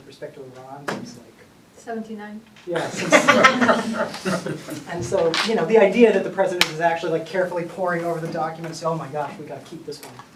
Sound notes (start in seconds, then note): 2.8 laughter